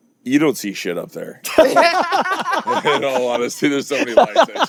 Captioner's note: both laughing